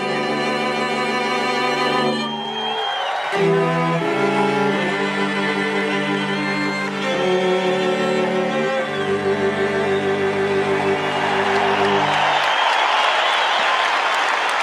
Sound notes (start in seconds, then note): 2.9 crowd cheers; 11.2 crowd cheers